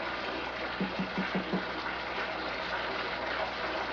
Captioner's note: knock on door